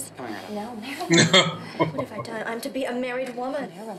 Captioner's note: chuckling